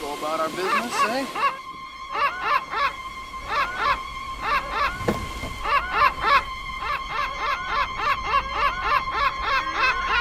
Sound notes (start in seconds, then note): 2.0 gull squawking; 4.9 door opening; 7.3 gulls squawking